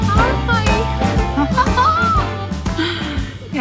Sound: giggles

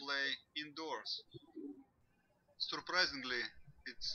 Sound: birds chirping

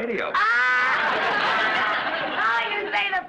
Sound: Lucy laughs

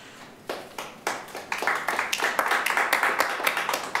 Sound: attendees applaud

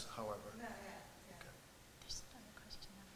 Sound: voiceover

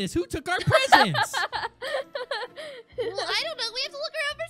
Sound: Goldie laughs

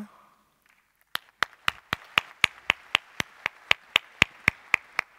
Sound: applause

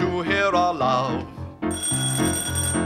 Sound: doorbell

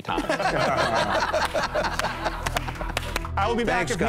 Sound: laughter

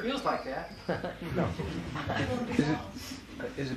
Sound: laughs

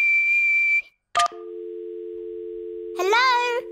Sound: whistles; dial tone beeping

